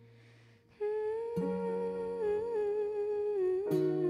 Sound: humming

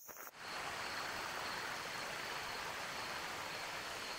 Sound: water splashing

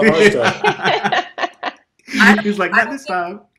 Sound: group laughs

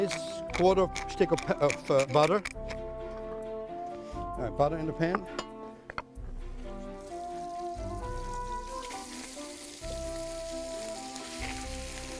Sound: grating; sizzling

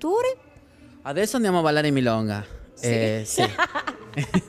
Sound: laughs

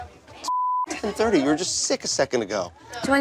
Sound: beep

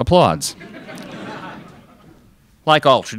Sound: crowd laughs

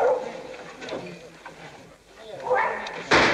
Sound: dog barks; everyone murmuring; gun fires

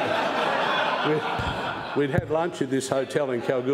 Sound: laughter

